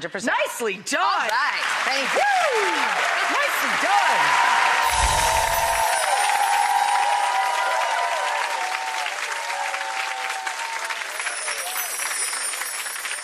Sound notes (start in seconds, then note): 4.6 audience cheering; 4.8 chimes ringing